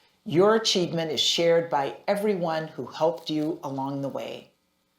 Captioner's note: none